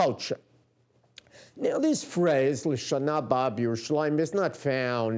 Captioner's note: non-english speech